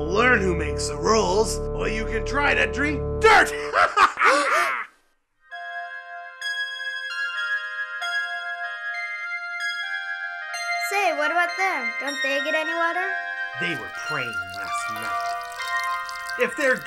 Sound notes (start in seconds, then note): 3.5 laughing; 6.0 somber music